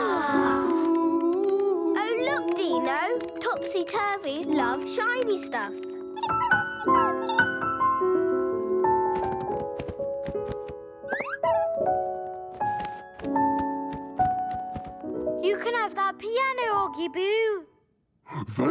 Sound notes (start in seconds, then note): 0.1 melodious singing; 5.6 squeaking; 7.9 piano music